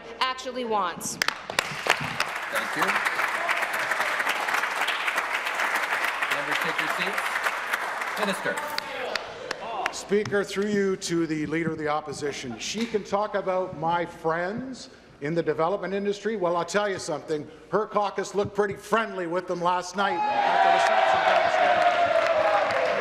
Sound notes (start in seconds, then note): 4.1 applause